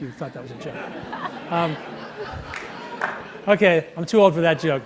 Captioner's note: audience laughs